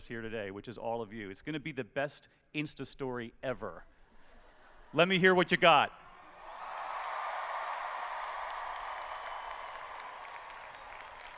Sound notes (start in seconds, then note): 4.2 laughter; 6.2 cheering and Applause